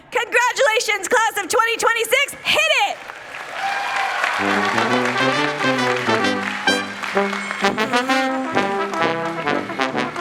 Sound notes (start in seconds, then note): 2.7 people cheering; 6.4 upbeat playful music